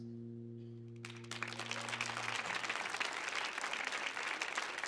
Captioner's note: audience clapping